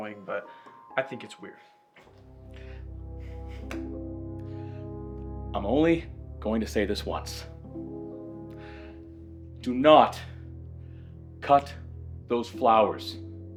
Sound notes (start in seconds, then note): 2.9 ominous music; 3.2 Tucker chuckles